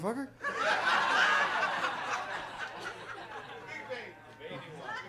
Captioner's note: audience laughs